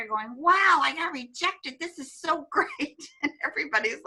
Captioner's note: laughs